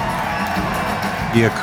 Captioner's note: crowd cheering; film rolling